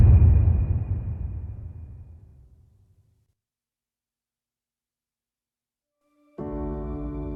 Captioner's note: dramatic sound